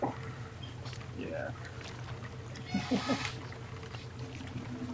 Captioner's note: chuckles